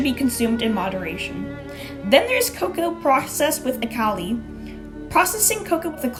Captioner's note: butchers pronunciation